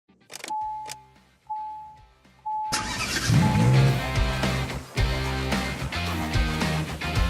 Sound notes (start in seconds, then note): 0.6 beeping; 2.7 car engine revs; 3.1 upbeat music